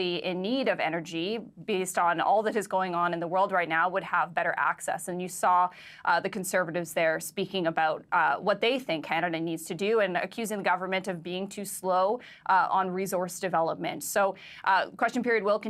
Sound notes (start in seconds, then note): none